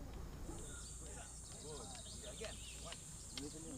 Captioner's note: birds chirping